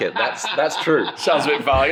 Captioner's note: laughs